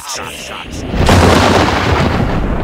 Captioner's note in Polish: trzask